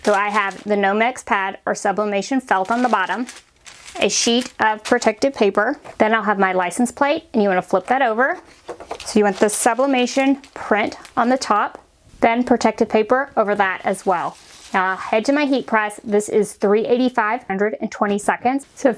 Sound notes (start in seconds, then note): 2.5 paper rustles; 7.8 metal rustles